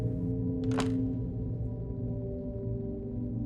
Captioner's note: door clicks open